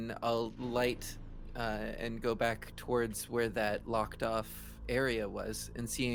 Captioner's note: none